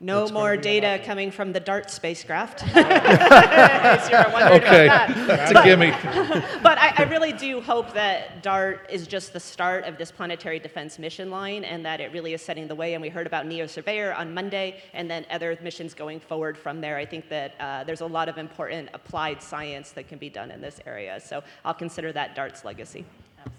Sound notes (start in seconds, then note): 2.5 audience laughing